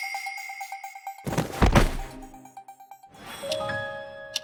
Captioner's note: thud…